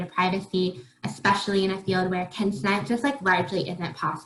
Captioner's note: faintly speaking